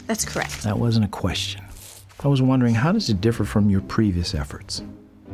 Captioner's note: none